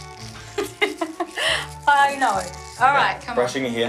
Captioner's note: laughs